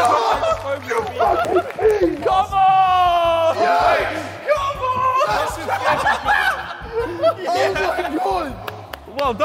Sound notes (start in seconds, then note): 5.2 JJ laughing